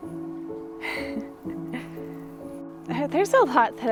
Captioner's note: laughs softly